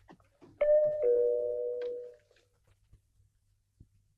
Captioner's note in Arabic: يرن جرس الباب